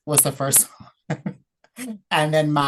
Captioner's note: laughs